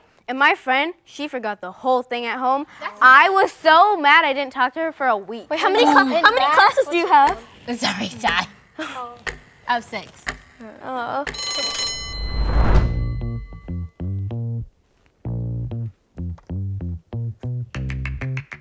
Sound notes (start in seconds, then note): 11.3 bell rings